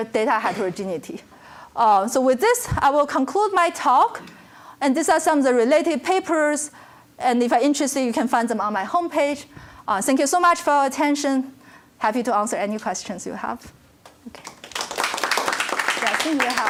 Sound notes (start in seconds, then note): 16.1 applause